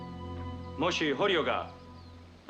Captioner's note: speaking japanese